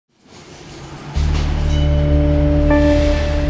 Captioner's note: industrial noises